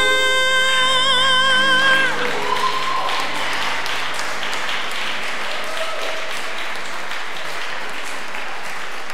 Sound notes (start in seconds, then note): 1.5 audience applause